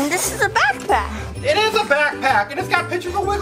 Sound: Mr. Engineer gasps

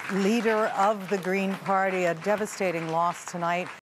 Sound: applause

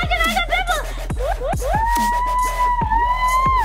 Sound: cheering

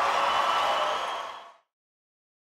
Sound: cheering

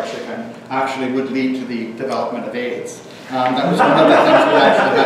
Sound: audience laughter

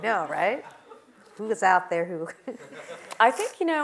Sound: laugh

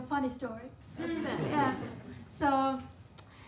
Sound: audience laughing

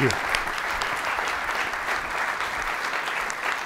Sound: audience applauds

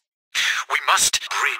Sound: gasp?!?!

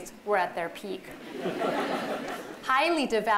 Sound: laughter

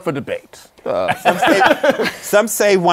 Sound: laughter

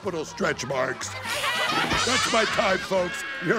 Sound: laughing

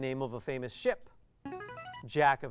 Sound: player buzzer

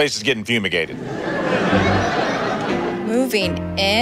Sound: audience laughs

